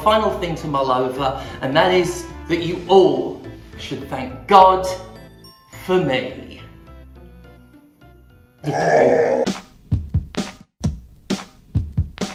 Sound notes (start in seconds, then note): 7.1 scary noise